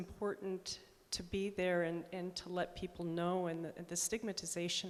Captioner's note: none